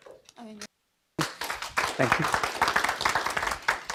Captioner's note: audience applauding